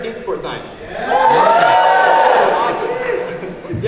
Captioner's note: audience woo